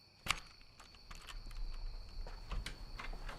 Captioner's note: key jingling